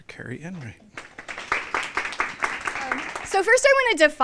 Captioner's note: applause